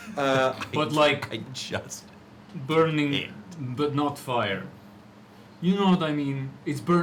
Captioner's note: laughter